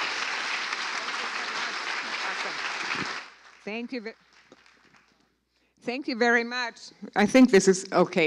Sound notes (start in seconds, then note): 2.3 applause